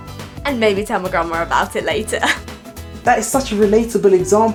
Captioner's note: laughs